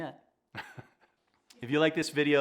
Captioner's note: laughs